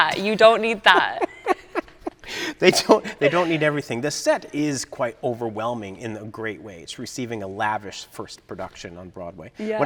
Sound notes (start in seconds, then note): 1.0 both chuckling